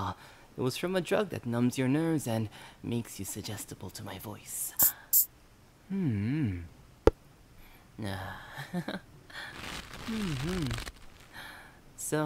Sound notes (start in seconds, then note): 8.1 laugh; 10.3 rope tightens